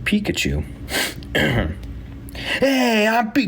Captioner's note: speaker clears throat